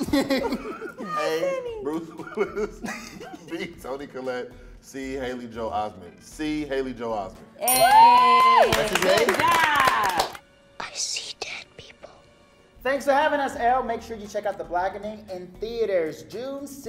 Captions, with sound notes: (cast laughing) A. Bruce Willis, B. Toni Collette, C. Haley Joel Osment C. Haley Joel Osment (cast applauding and cheering) - I see dead people. - Thanks for having us Elle. Make sure that you check out The Blackening in theaters June 16th.